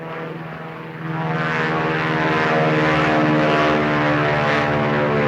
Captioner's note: airplane buzzing